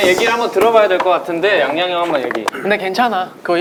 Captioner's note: drinking bottled water